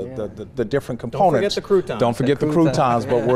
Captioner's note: laughs